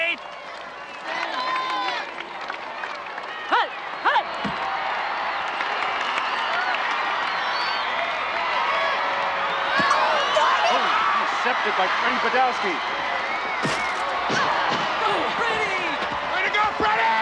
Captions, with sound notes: - Hut! Hut! (crowd cheering) - Oh, it's intercepted by Freddie Badowski. (players thudding) - Go, Freddy! Way to go, Freddy!